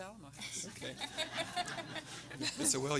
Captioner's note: audience laughing